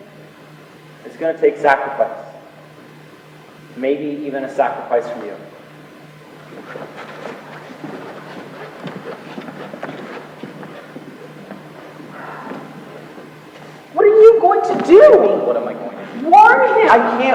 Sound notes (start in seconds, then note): 11.8 sighs